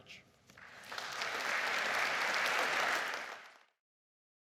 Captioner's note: audience claps